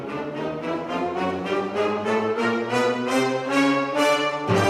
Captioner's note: none